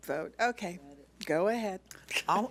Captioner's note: laughs